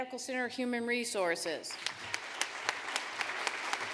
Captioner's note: applause